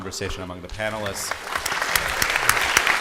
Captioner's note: applause